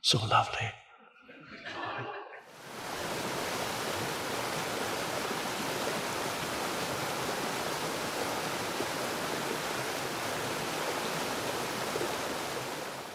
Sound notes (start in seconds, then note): 1.2 audience laughs; 3.4 water splashing